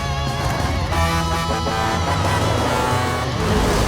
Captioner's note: horn honking